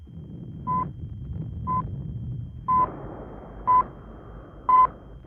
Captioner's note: electrical beeping